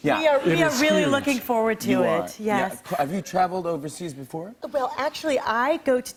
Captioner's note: none